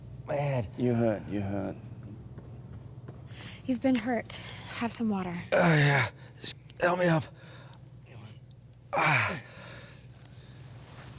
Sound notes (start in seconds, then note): 5.5 moans; 8.9 moans